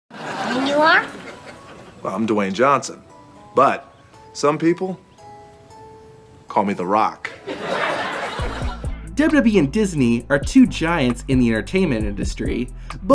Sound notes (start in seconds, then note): 0.1 audience laughing; 7.3 audience laughing